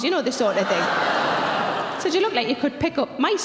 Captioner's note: audience groans